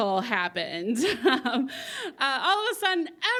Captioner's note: chuckles